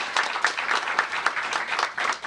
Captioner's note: applause